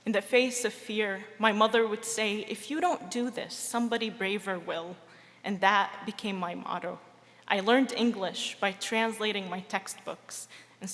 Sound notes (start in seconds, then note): none